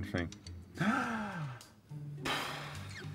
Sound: exhales

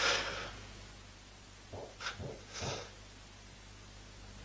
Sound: banging

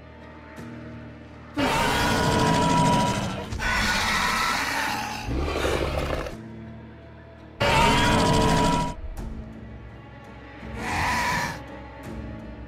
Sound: Scorpius Rex sounds

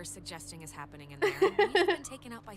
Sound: laughter

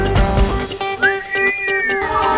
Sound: whistles

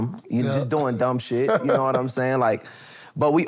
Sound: chuckles

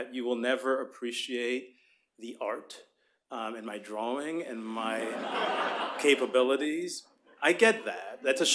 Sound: laughter

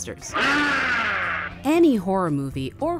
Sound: Frankenstein screams

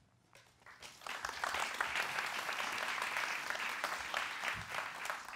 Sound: applause

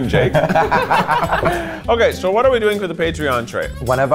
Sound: group laughing

